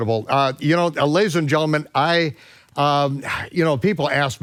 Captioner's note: sighs